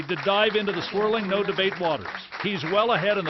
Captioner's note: applause